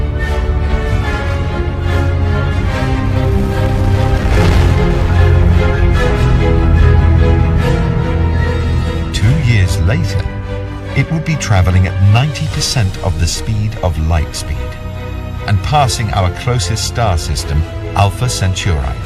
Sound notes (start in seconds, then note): 1.9 spaceship roaring; 2.9 dramatic music continues